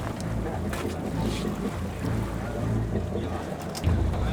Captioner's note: tense music begins; boat engine roaring continues; tense music continues